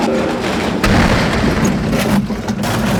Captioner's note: crash